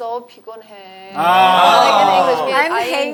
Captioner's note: half English, half Korean